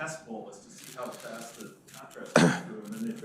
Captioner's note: coughs